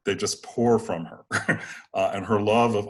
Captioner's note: chuckles